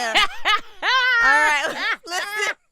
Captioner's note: laughing